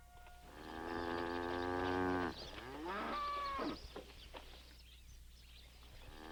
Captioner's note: bulls bellow